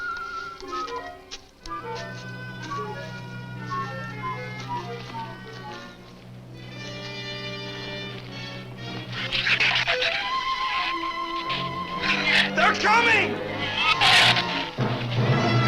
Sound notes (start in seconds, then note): 1.5 suspenseful orchestral music; 9.0 shrew chatter; 15.3 dramatic orchestral music; 15.3 shrews chatter